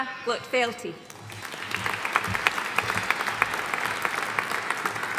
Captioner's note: audience applauding